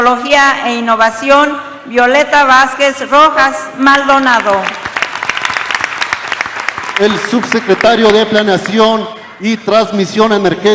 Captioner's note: applause